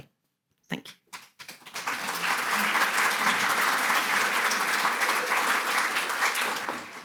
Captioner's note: audience applauding